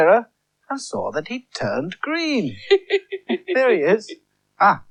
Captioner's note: Toby Laughs